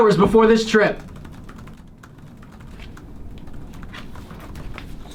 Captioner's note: keyboards clacking